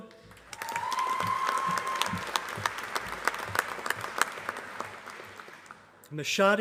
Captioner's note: applause